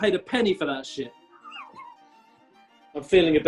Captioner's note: sniggering